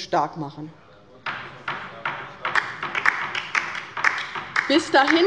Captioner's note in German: Beifall bei der LINKEN